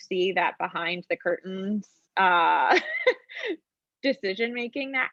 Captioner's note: woman laughs